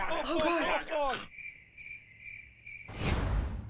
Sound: cricket Noises

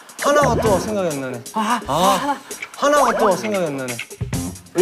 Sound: whispering

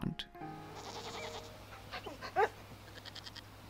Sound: sheep bleats; dog barks

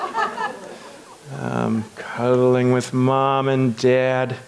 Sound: audience laughs

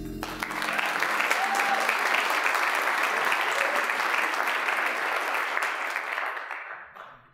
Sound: applause, cheering

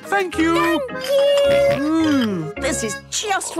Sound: snorts

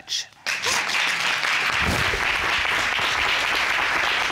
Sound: both sobbing

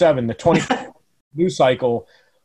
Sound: laugh

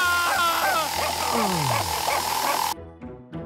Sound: drill whirring; screaming; moans; saw grinding; playful music

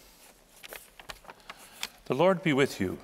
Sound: pages flapping

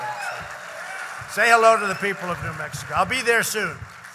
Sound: applause

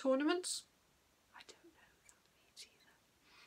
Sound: whispers

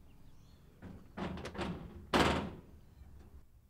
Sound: knocking

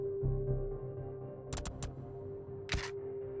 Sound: typing

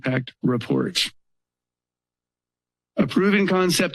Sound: pause

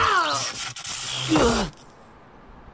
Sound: grunts

